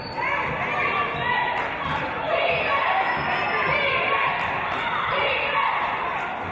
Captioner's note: audience chanting "Defense!"